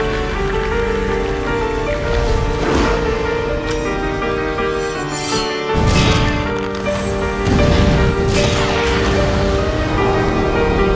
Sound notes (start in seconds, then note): 3.1 game sounds